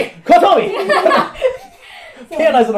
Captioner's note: laughs